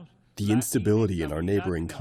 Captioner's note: through translator